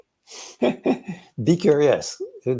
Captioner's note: both laughing